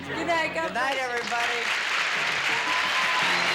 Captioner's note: cheering; upbeat music